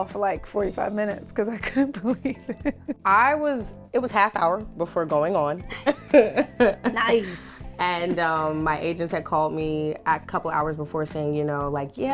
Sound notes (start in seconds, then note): 5.7 laughing